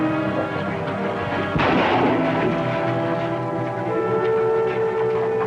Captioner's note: gunshots